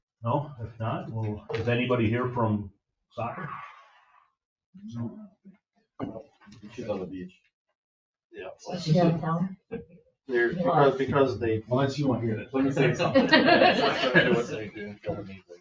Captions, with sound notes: No, if not, well, is anybody here from soccer? She's on the beach. Is she out of town? (members chattering)